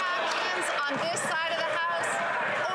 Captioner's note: some Applause